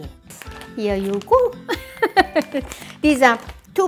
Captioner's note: laughs